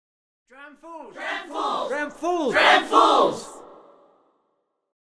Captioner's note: chanting